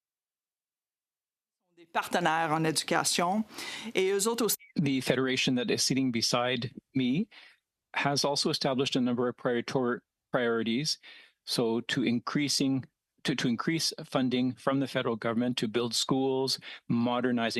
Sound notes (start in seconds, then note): 12.5 speaking French